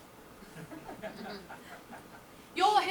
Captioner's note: audience laughs